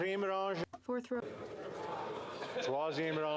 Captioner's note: speaking French